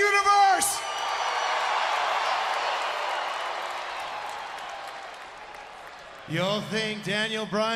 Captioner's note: crowd cheering